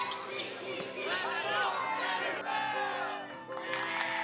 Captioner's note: team cheer; crowd cheering